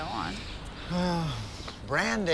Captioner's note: Chris sighs